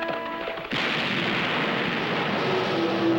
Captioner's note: gunshot